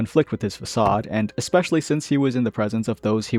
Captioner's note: thunk